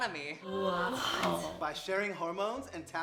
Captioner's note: gasping